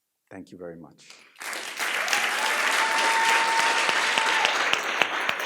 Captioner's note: audience applauds and cheers